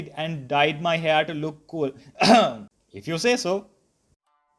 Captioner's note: cough; cough